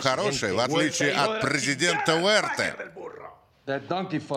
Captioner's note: speaking Spanish